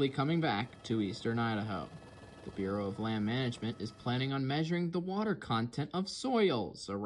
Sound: helicopter going over a fire

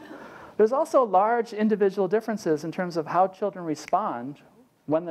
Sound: laugh

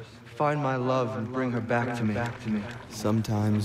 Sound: echoing

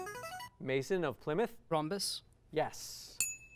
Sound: ding

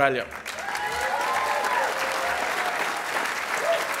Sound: applause

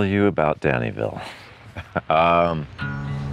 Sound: laughing

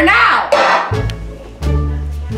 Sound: cup slamming

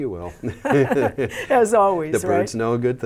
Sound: both laugh

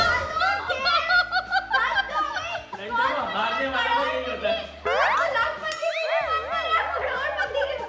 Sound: laughter

